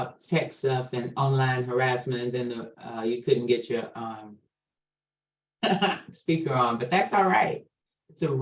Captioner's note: chuckles